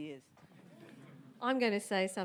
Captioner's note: audience murmurs